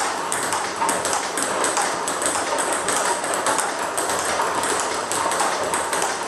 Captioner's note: ball ping pong hitting continues